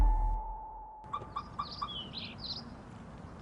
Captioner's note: car alarm beeps off